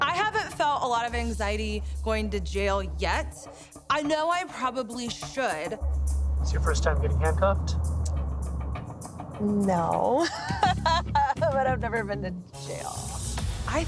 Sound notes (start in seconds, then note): 10.0 laughs